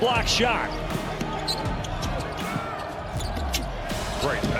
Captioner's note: upbeat music; shoes squeaking